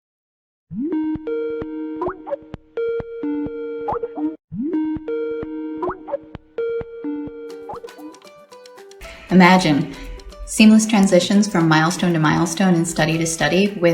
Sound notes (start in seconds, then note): 0.8 video call ring tone